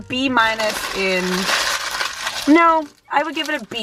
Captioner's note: paper rustling